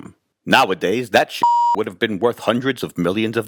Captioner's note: beep